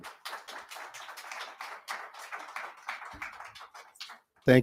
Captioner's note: people clapping